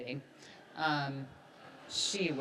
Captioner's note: audience laughs